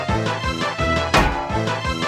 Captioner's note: donk